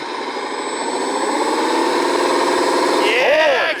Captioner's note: motor chugging